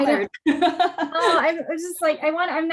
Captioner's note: laughs